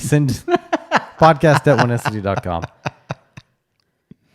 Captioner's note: laughs